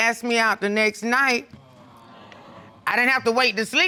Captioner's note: audience exclaiming